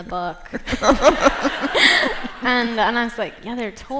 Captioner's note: laughter